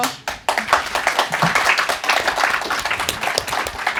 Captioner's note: audience applauding